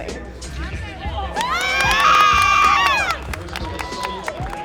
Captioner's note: cheering